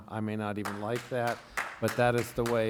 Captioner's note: applause